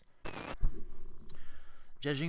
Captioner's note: static